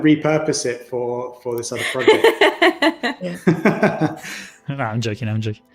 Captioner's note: laughs